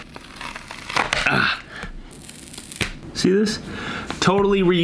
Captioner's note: thwack